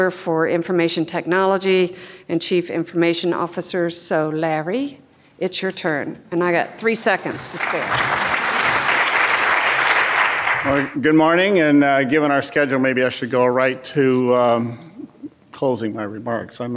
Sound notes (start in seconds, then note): 6.9 audience applauds